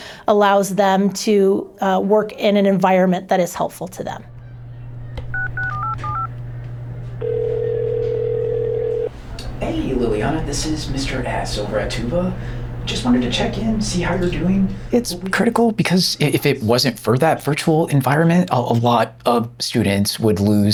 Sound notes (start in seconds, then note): 5.3 dialing phone; 7.2 phone ringing